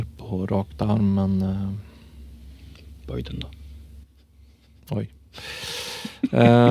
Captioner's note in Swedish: Skratt